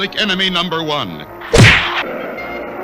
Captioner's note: smack!